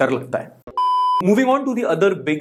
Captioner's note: beep